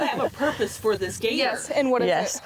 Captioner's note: all laugh